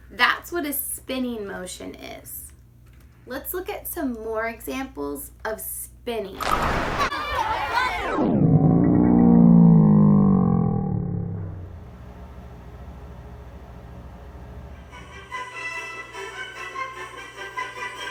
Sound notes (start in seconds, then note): 6.7 children laughing; 8.4 dramatic music; 14.9 bouncy music